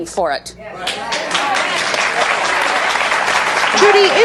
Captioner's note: audience applauding